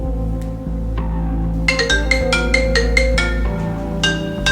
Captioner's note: phone ringing